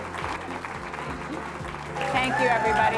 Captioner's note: applauding